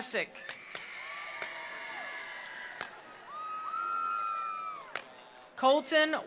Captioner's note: attendees cheering; attendees applauding